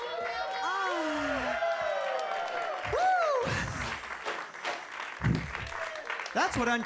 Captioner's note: audience cheering; audience clapping